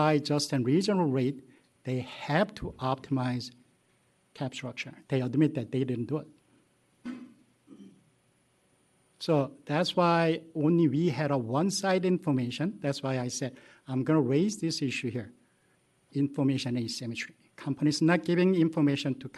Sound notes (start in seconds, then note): 7.0 clears throat